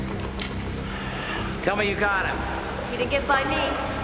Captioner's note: sighs